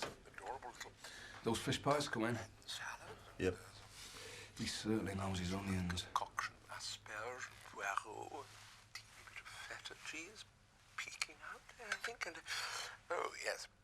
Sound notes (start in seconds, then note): 7.6 speaking in foreign language